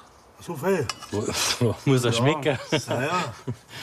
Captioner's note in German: lacht